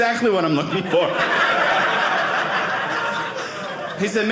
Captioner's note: audience laughing